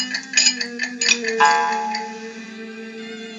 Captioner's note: boing